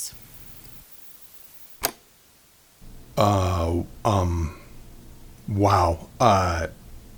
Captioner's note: tape recorder clicks off